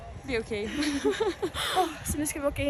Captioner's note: laughs